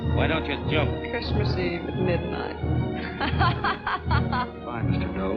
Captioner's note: laughing